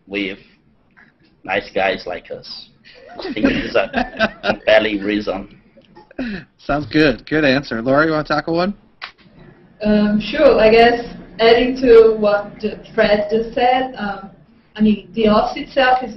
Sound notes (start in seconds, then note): 3.0 laughter